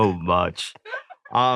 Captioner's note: everyone chuckles